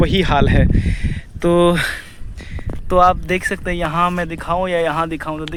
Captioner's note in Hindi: अचानक ज़ोर से सांस लेने की आवाज़; गहरी सांस लेने की आवाज़